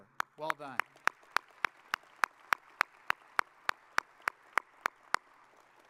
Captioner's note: audience applauding